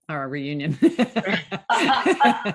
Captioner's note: laughter